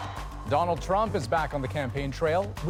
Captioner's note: cheers and Applause